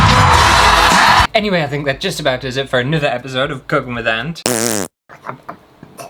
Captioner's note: fart!